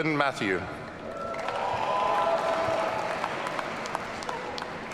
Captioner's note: audience cheering